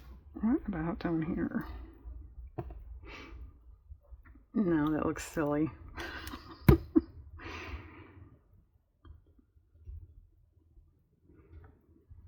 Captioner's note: laughs